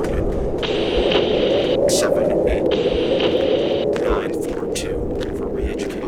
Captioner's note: voice over radio cut off